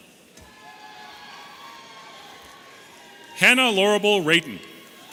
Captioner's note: audience cheering